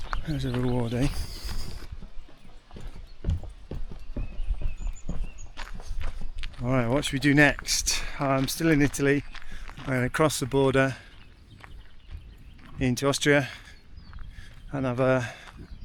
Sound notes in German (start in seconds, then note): 3.2 Vögel zwitschern